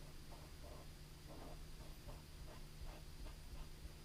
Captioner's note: pen scratching